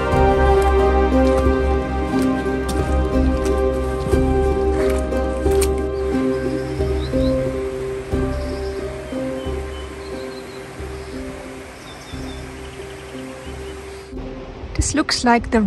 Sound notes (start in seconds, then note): 6.1 sound of water and birds singing